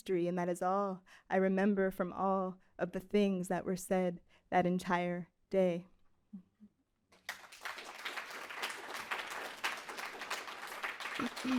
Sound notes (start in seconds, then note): 7.1 crowd clapping